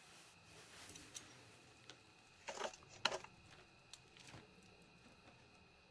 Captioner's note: metal clattering